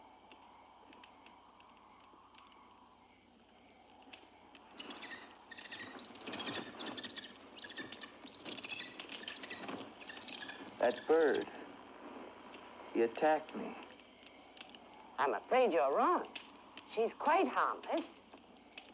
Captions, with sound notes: (bird chirps) - That bird... He attacked me. - I'm afraid you're wrong. She's quite harmless.